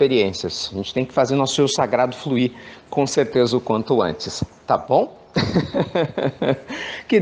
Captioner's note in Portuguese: risos